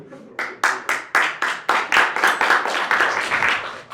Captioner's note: applause